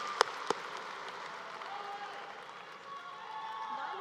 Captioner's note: applause